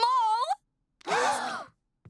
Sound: gasping

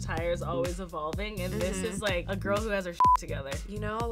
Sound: beep

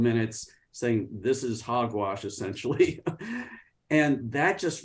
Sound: laughs

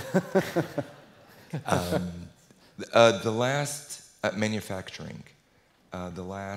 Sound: laugh

